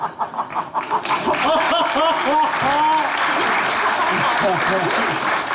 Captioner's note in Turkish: Alkış sesleri